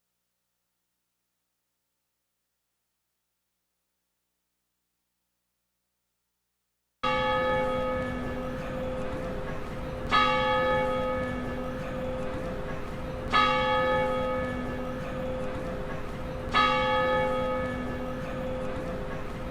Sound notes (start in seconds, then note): 7.1 bell chiming